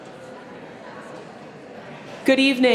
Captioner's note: attendees chatter